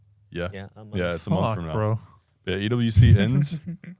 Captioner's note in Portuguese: risos